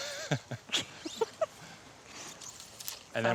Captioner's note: both laugh